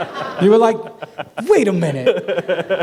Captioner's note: laughter